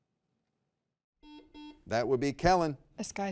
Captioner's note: buzzer beeps